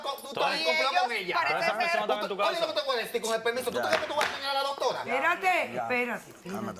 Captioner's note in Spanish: Hablan al unísono